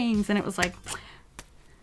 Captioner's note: clap